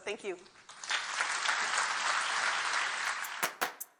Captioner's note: audience applauds; upbeat music